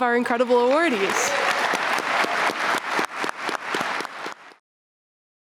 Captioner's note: applause